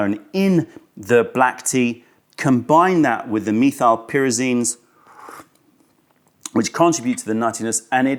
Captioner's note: sips tea